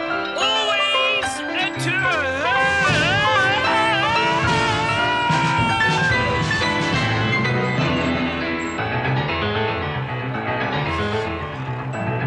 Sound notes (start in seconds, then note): 2.9 yells